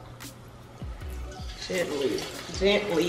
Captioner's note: sizzling